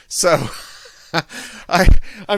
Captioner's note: laughing